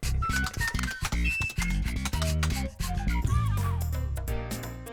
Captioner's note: keyboard typing; funky music